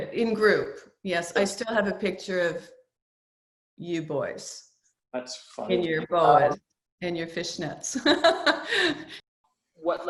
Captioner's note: laughs